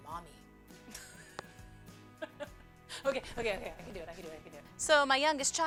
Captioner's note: laughing